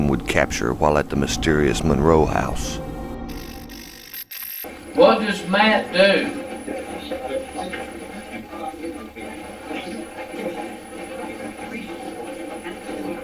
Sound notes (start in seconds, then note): 3.5 static fizzing; 7.6 static playback transmitting